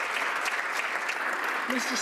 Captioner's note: some Applause